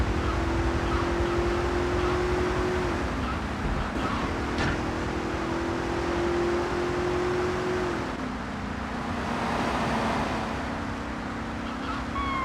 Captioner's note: plane engine roaring